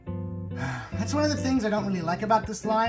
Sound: sighs

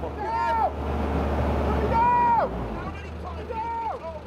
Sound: shouting

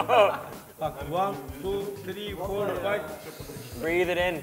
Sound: laughs; sniffs

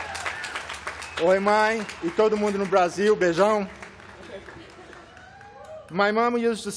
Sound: speaking portuguese

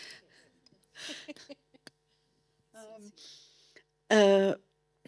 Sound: laughing

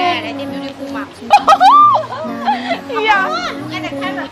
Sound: laughing

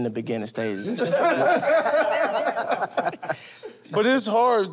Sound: laughter

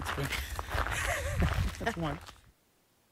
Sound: laughs

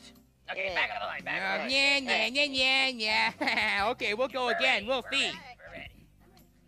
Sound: laughs

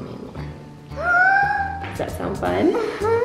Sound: gasps

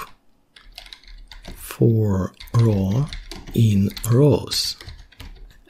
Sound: typing

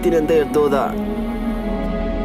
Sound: in Urdu

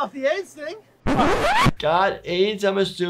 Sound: glitching

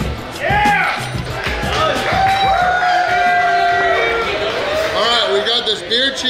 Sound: cheering & Clapping

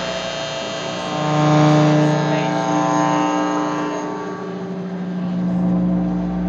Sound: sound from presentation draws out speaker voice

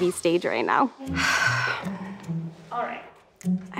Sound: exhales loudly

